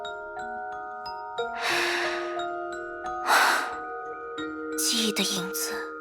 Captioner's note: sigh